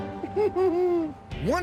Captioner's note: whimpers